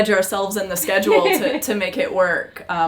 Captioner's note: laughs